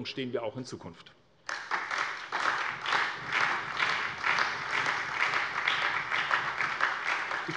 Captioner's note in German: Beifall bei der SPD und dem BÜNDNIS 90/DIE GRÜNEN